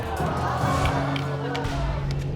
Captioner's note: audience exclaims